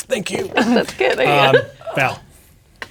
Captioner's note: laughing